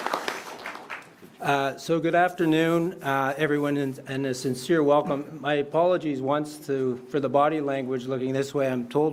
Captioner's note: applause